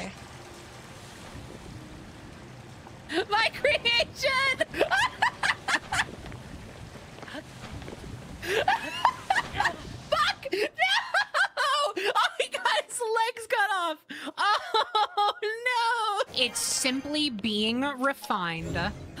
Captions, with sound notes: My creation! [Victorious Laughter] [Laughter] Fuck! No! Oh, he got his legs cut off! Oh, no! It's simply being refined.